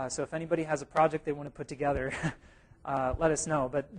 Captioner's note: chuckle